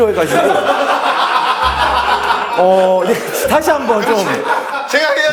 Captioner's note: ah ha ha ha ha